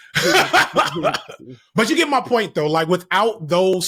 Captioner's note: laughing